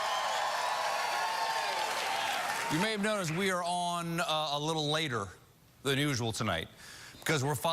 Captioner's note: cheers and applause